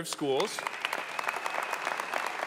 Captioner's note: applause